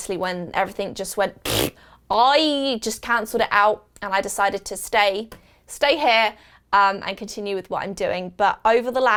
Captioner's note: raspberry noise